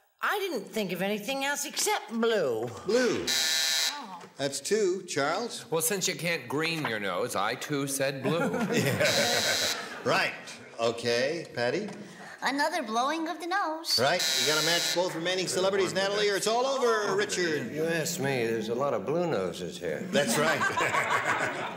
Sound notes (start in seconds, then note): 3.2 buzzer; 9.0 buzzer; 13.9 buzzer; 20.1 laughter